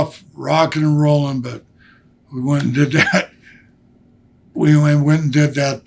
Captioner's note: laughs